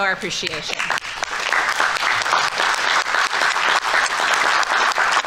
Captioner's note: audience applauding